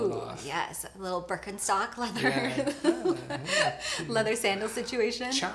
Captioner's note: laughs